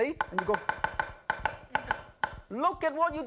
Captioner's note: knife chops